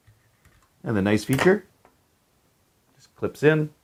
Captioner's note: plate clicks